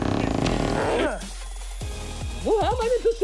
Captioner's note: grunts